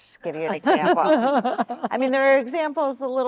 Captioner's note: laughs